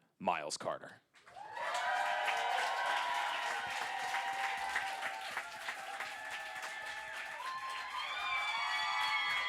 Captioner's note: crowd cheering yippee